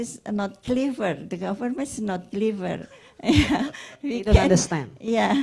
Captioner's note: laughs